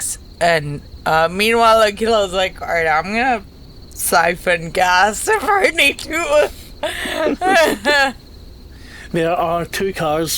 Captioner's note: laughs